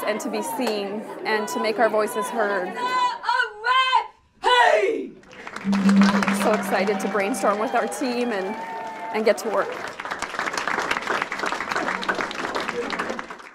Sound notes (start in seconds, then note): 5.6 cheering; 9.9 cheering